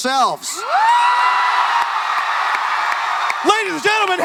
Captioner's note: audience cheering and clapping